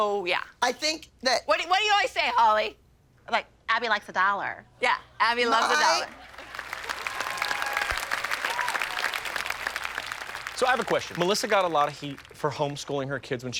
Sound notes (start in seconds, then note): 6.8 applause